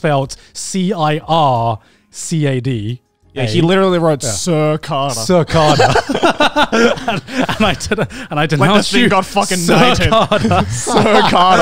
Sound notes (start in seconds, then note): 5.6 everyone laughs